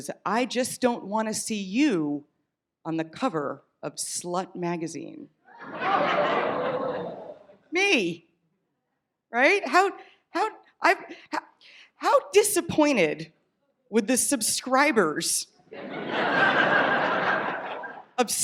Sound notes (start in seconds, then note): 5.7 audience groans; 15.7 audience laughs